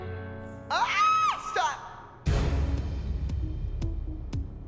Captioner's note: screams